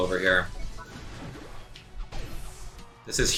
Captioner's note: fighting sounds